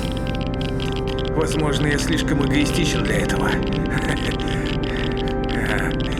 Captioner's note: laugh